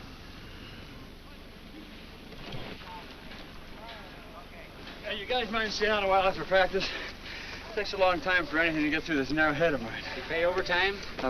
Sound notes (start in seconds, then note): none